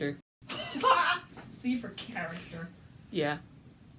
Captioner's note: sarcastic